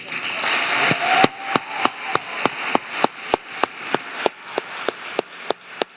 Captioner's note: audience applauding and cheering